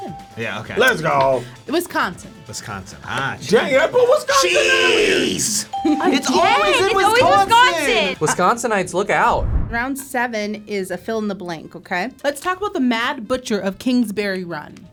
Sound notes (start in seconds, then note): 5.7 ping; 9.3 animation whooshes